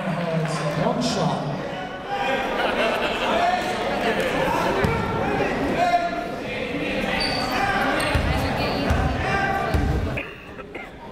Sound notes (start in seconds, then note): 3.1 chatter